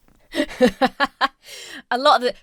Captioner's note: laughs